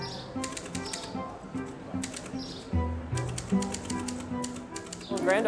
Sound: typewriter clacking

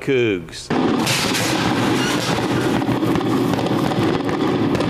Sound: fireworks exploding

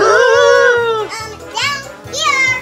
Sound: both yell

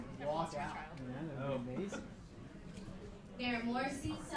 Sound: laughs

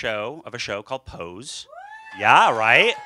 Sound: cheers and applause

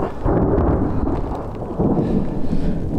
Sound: thunder

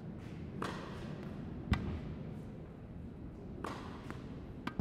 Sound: racquet hitting ball

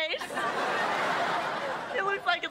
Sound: audience laughing

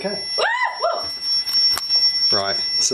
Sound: screams

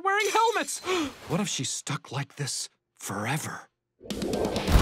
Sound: gasps

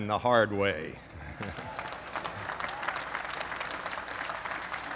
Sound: applause

